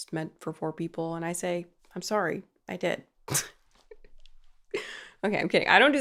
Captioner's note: laughs